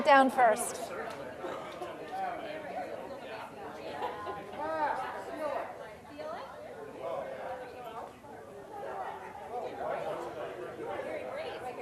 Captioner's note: general chatter